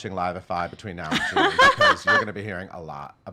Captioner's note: laughs